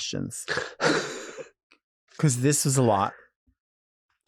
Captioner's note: Nymphia chuckling